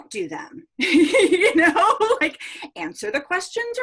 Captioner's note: laughs